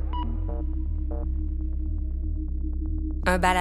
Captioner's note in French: bip sonore